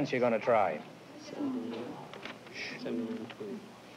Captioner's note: whispering